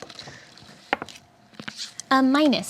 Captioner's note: dice roll